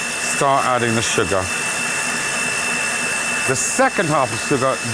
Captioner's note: mixer whirring